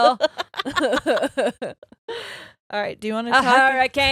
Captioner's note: all laughing